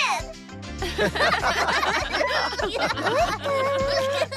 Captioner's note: all Laughing